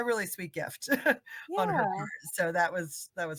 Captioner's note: chuckle